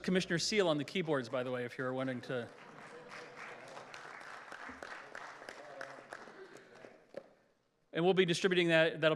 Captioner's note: applause